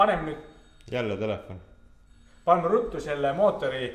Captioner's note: phone ringing again!